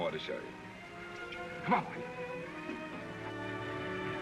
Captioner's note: clicking sound